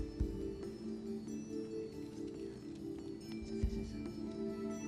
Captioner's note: whispering